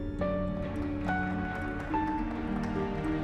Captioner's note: applause